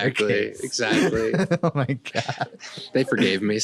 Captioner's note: laughing